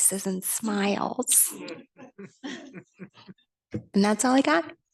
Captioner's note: group laughing